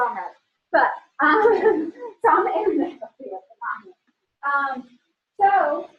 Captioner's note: laughter